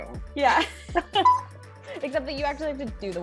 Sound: both laughing

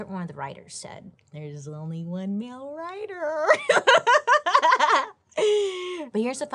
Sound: laughs

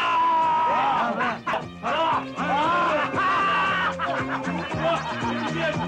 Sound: shouts

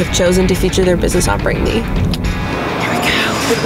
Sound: clicks tongue

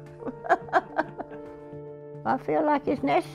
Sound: laughing

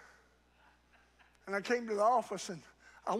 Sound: congregant laughs

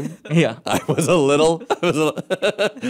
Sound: laughing

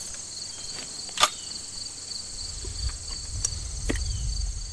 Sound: gun clicks

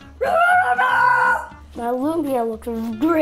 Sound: yells

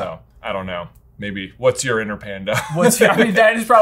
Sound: laughing

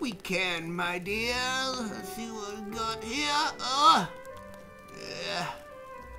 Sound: groans

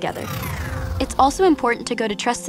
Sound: scene whooshes

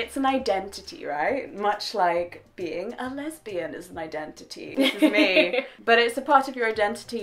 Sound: both laugh

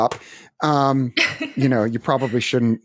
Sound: laughs

